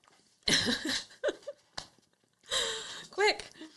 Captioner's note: laughs